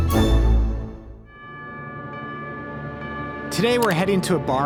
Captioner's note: bell ringing